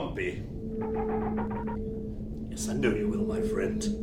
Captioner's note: ship chirps